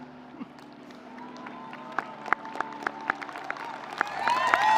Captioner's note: audience applauding